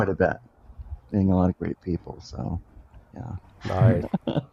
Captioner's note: laughs